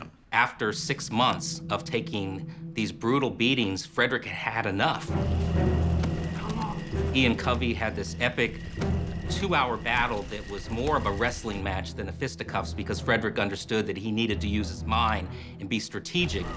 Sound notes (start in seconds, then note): 4.8 insects chirping; 5.3 dramatic music